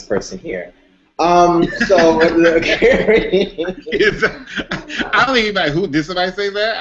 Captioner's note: laughter